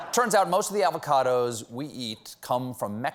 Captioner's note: laughter